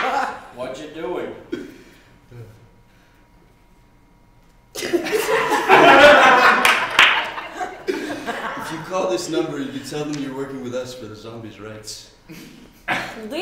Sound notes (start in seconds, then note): 4.8 laughter